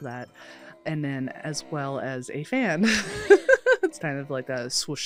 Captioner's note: laughs